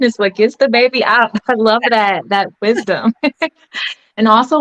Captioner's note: laughs